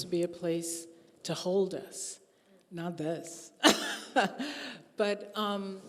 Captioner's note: chuckling